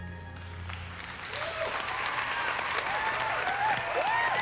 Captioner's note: cheering and applause